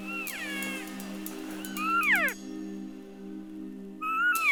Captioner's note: elk call sounding